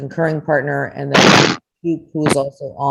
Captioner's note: speaker drowned out by loud feedback crackle